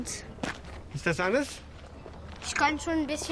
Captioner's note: in German